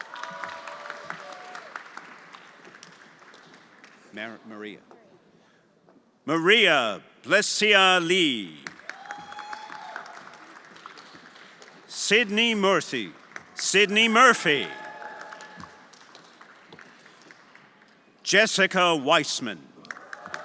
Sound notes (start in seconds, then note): 0.0 everyone applauding; 8.5 everyone applauding; 8.9 friends cheering; 15.0 everyone applauding